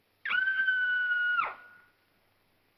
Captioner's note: Mrs. Topper screams